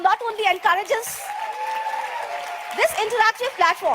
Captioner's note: audience applauds; audience cheers